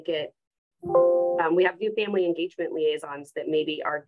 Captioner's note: computer sound